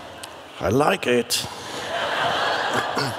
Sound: crowd laughs

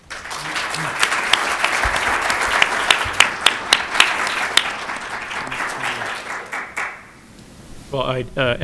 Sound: applause

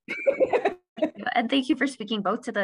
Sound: laughter

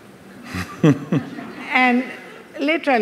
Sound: laughs

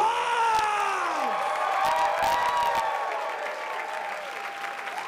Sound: cheers and applause

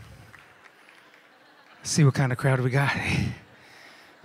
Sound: laughter

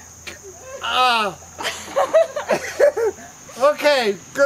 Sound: general laughing; more laughs

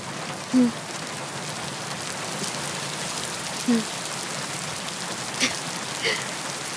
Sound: rain sound

